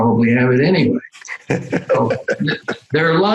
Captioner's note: laughing